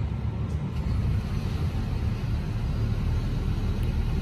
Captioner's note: car engine switches itself on quietly